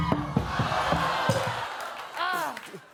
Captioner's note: audience exclaims